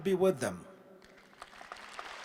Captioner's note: applause